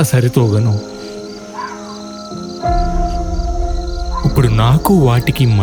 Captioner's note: jackals howling